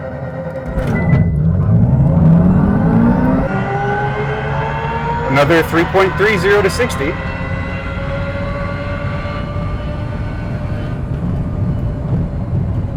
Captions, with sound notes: (car accelerates) Another 3.30 to 60.